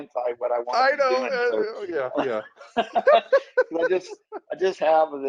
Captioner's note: laughs